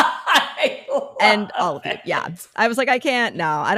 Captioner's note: laughing